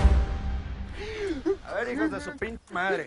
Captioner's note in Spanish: Sollozos